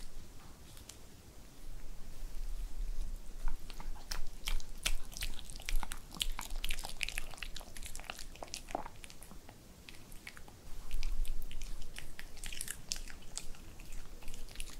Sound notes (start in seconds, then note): 8.5 swallows